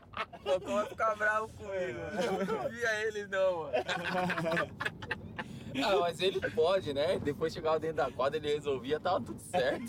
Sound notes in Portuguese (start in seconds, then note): 3.7 risos